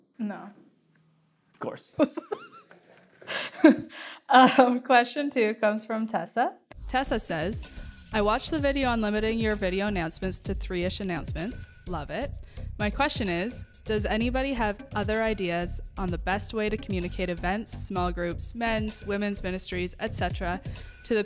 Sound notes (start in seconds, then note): 2.0 laughing